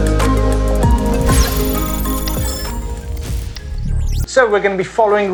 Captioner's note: electrical chiming